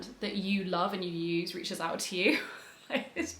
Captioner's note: laughs